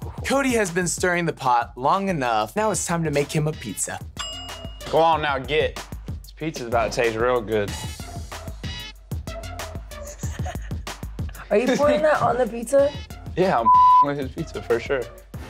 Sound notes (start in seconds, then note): 4.2 timer ding; 8.8 funky music